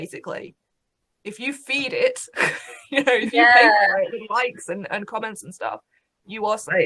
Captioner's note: laughs